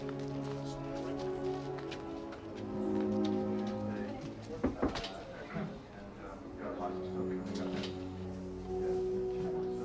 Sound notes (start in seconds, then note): 4.6 knocks on door; 5.5 indistinct chatter